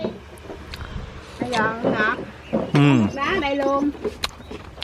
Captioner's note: talking